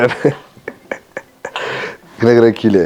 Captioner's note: laughs